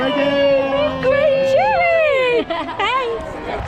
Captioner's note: laughter